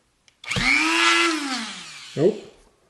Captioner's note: Dremel buzzes, then stops